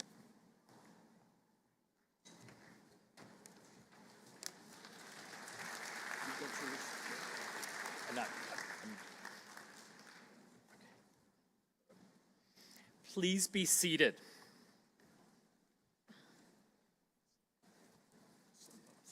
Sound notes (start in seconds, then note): 4.5 applause